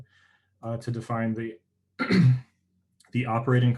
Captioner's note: clears troat